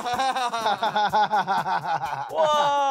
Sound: laughs

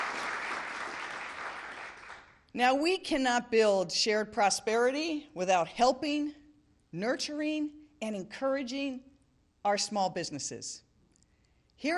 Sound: applause

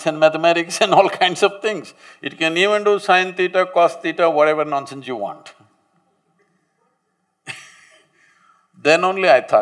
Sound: laughs

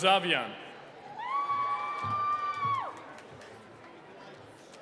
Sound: cheering

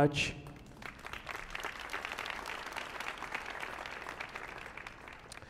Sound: audience applauding

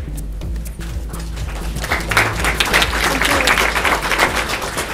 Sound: audience clapping

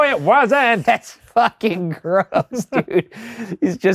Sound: laughing

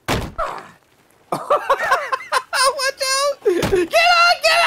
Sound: laughter

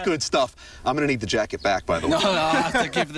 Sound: laughter

